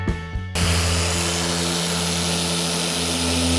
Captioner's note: pad whining